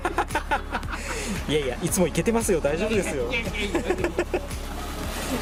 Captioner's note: laughs